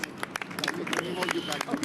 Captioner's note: applause